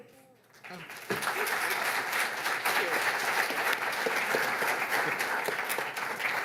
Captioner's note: applause